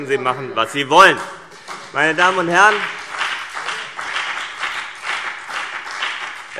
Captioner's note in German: Beifall CDU und BÜNDNIS 90/DIE GRÜNEN